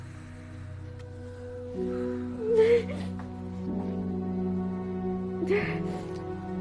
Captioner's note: sobbing